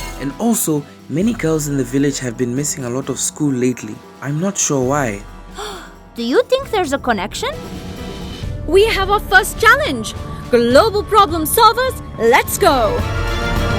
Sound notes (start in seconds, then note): 5.5 gasps; 13.5 dramatic music